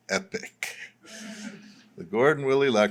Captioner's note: laughter